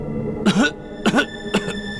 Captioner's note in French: Tousse